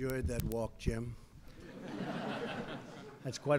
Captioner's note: laughter